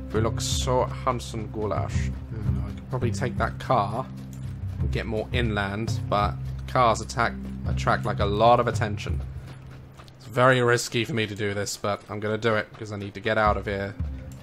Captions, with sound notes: Ve look so handsome, Goulash. (normal voice) Hmm, I could probably take that car and get more inland. But cars attract, like, a lot of attention. It's very risky for me to do this, but I'm gonna do it cos I need to get out of here.